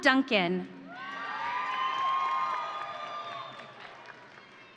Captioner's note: audience cheering